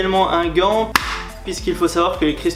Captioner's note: clack!